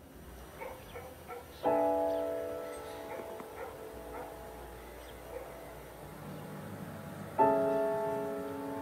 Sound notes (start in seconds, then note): 0.4 distant dogs barking; 1.8 gentle dramatic music